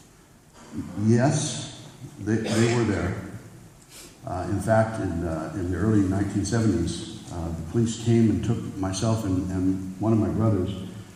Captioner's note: hesitant